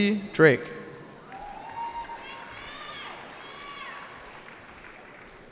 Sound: cheering

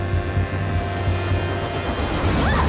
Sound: whirring; shrieking

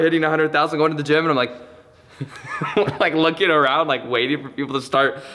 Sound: laughs

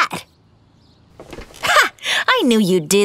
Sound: scoffs

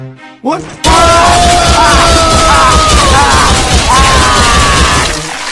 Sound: laughing and Screaming

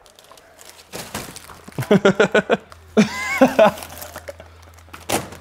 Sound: Josh laughing

